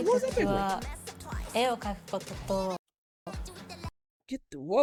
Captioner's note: non-english speech